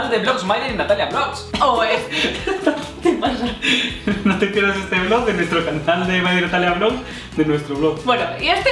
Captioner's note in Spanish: risas